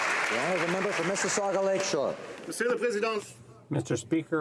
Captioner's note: applause